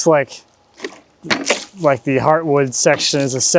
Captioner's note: water splashing